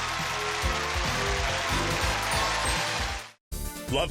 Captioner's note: applause